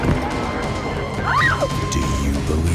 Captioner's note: woman screams